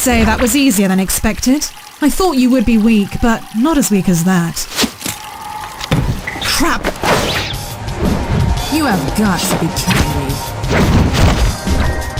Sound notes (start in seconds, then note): 4.7 rope sound